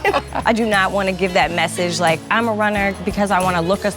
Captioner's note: both laughing